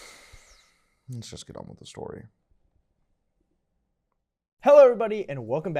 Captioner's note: heavy Breathing